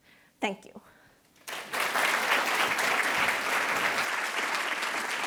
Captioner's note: attendees applauding